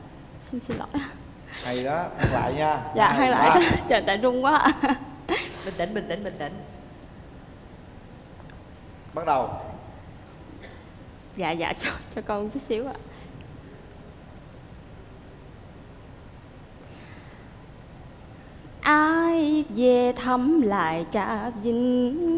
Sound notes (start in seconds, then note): 2.9 laughter